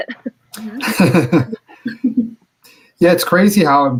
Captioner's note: lauGhs